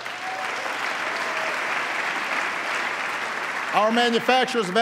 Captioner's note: applause